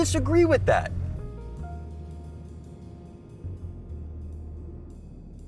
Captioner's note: wind blowing